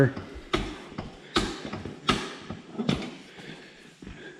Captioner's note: jack clanking